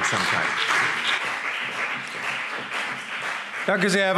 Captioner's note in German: Beifall BÜNDNIS 90/DIE GRÜNEN und CDU